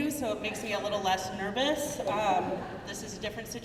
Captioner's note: crowd murmuring